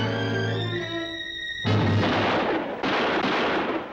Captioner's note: gun shots